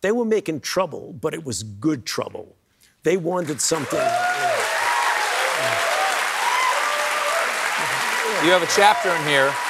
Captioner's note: cheering